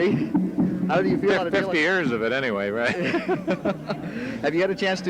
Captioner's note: laughs